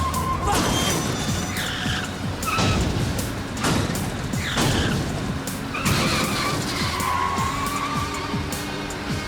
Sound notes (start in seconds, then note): 3.1 cars crash; 3.1 tires screech